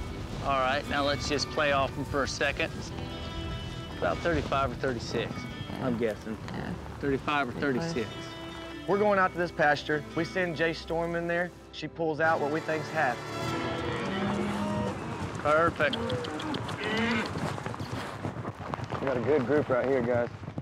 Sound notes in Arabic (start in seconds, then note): 13.1 ضربات حوافر